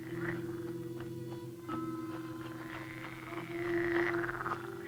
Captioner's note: animal croaking